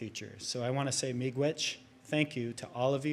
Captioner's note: speaks in native language